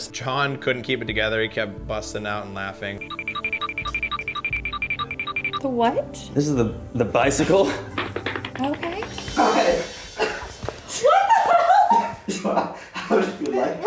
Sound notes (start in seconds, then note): 3.1 bells tinkling; 12.8 laughing